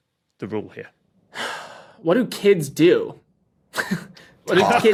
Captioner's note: sighs